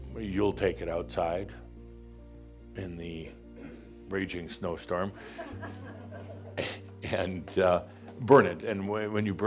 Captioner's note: a few chuckles